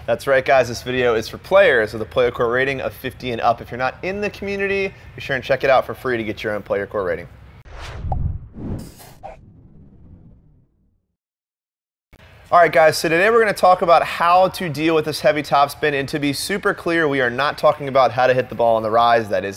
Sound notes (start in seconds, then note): 7.6 logo whooshing